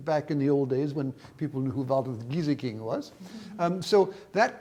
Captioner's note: speaks in foreign language